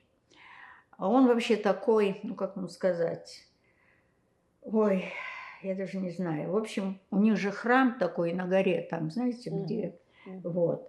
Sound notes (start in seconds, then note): 4.6 sighing